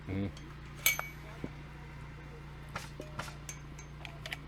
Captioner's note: metals clank